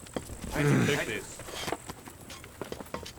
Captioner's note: groans